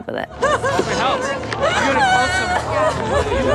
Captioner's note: Angela sobbing